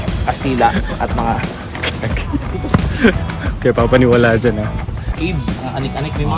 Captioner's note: laughs